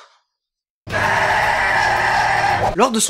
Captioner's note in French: cri